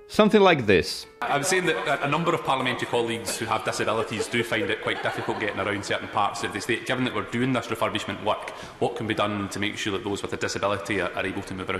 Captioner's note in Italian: inglese con forte accento scozzese